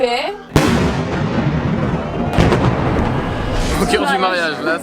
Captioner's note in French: boum